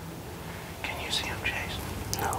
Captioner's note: whispering